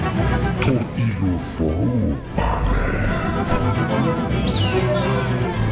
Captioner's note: speaking in foreign language